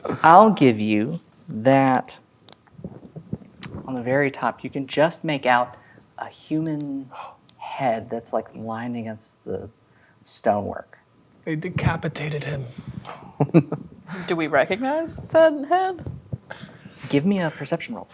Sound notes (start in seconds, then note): 7.1 gasps; 12.9 chuckling